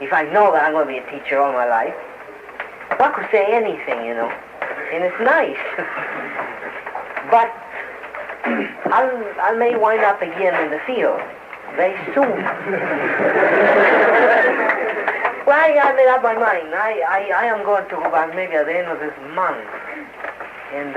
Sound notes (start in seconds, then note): 12.4 laughter